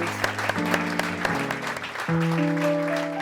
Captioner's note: applause